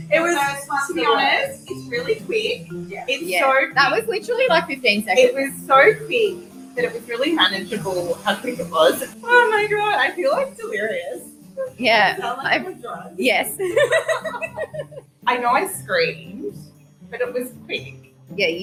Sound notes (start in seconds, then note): 13.5 giggling